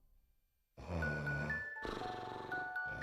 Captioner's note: snoring